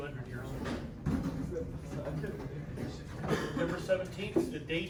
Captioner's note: indistinct chatter